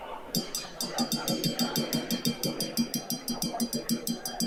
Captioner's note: glass clanging